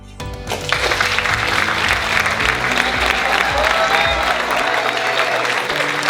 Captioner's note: audience applauding and cheering